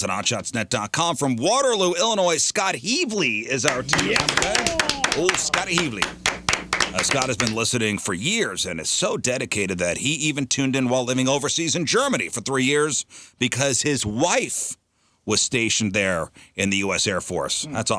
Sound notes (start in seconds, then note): 3.6 clapping